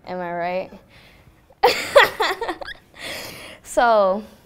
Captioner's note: laughs